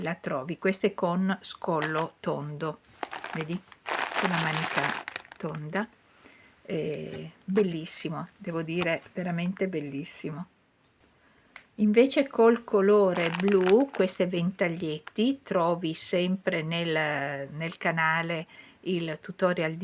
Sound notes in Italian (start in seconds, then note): none